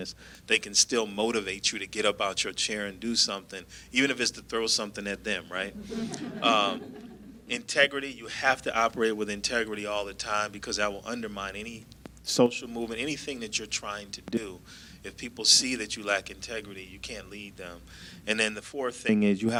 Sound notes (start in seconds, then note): 5.7 laughter